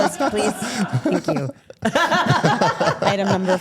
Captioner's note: laughs